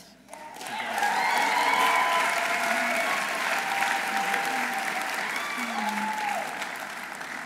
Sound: audience applauding; audience cheering

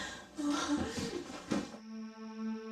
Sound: breathing heavily; sobbing; rustling

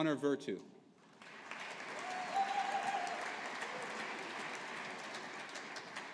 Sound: audience applauding

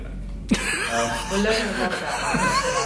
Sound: laughter

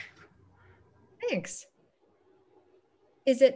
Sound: speaking in foreign language

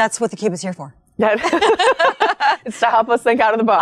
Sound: women laughing

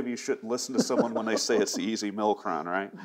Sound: laughs

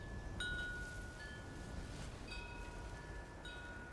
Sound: wind chimes ringing

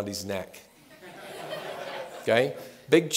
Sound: laughter

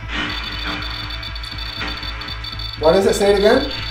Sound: device beeping

